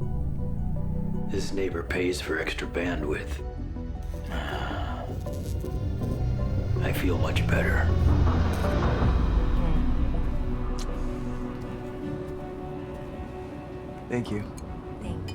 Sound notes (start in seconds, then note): 4.2 WB3 sighing; 8.4 suspenseful music